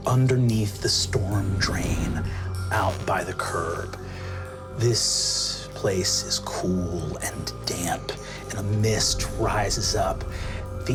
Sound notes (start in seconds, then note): none